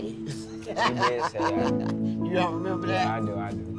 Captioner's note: laughing